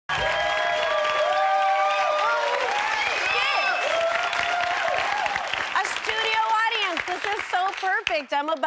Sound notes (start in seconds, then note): 0.0 audience cheering